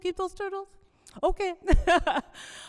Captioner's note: laughs